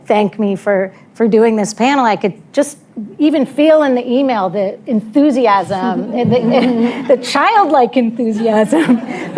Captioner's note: laughter